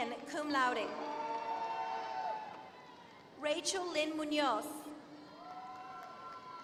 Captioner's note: applause